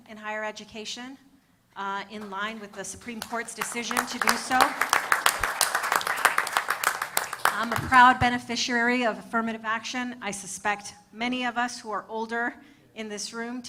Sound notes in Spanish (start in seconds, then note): 4.6 Aplausos